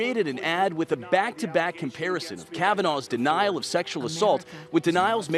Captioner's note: nats up of commercial